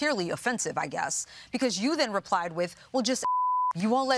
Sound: beeps

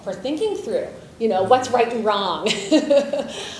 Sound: laughs

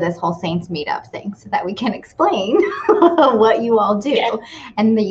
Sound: laughs

